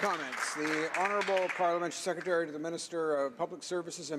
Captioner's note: applause